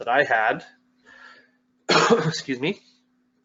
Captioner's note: coughs